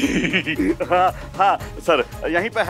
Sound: laughing

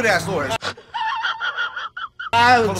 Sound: laughing

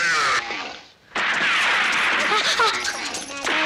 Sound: gunshot

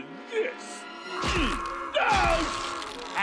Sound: groaning

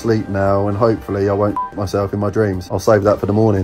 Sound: beep

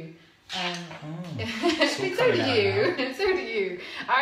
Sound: laughs

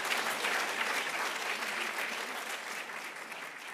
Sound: applauds

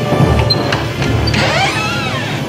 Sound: door creaks

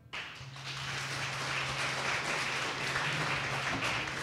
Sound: audience applause

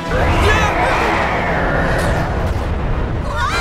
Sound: ominous music; shrieking

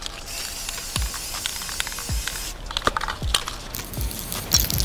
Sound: spray can clicking

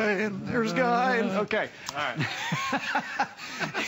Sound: laughter

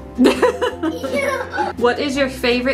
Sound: laugh

